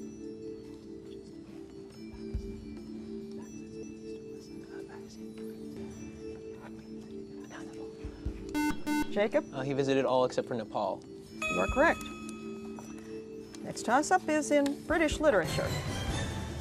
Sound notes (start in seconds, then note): 6.4 whispering; 8.5 buzzer